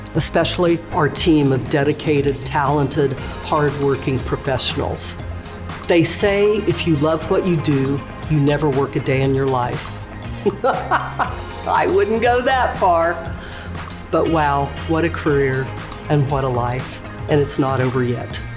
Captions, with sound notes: especially our team of dedicated, talented, hardworking professionals. They say if you love what you do, you never work a day in your life. (laughs) I wouldn't go that far, but wow, what a career and what a life and it's not over yet.